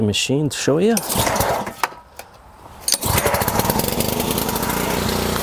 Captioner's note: motor roaring